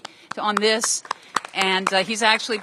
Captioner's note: applause